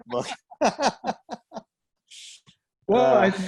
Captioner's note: both laugh